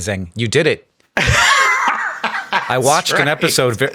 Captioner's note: Sam laughing